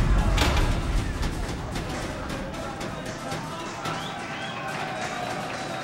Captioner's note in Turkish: Bağırma sesleri